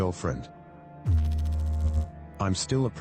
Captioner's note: electrical noise